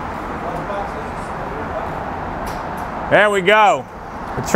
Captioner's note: background chatter